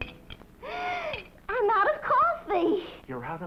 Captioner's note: gasp